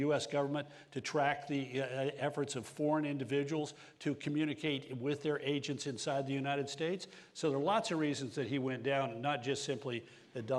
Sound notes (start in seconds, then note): none